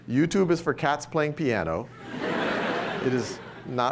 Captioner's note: laughter